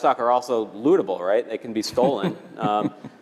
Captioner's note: laugh